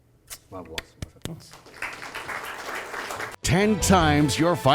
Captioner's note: claps; audience applauds